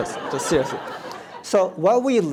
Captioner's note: audience laughs